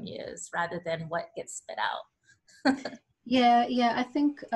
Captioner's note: laughs